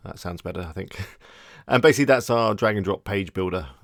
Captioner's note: laughing